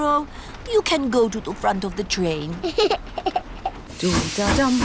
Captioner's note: giggles